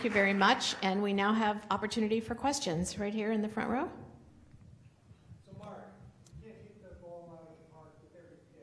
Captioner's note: applause